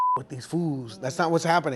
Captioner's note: beep